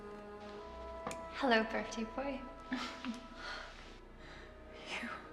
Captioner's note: Maggie Voiceover